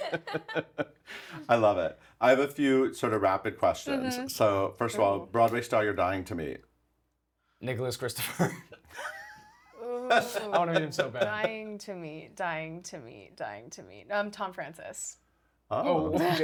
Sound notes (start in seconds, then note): 0.0 laughs; 9.7 laughs; 15.0 laughs